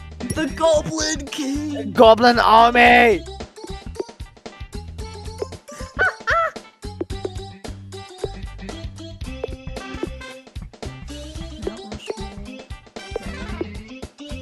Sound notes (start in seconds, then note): 5.9 cackles